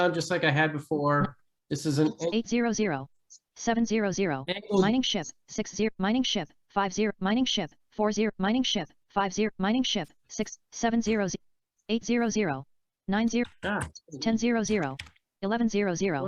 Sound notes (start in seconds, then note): 2.1 screen reader audio continues